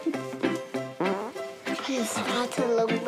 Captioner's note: farts